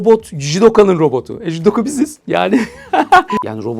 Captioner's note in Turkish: kahkaha